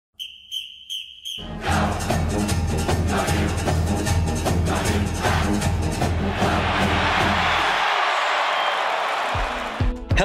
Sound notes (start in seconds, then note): 0.1 whistle blowing; 8.3 crowd cheering